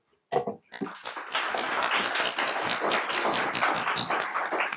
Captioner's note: applauding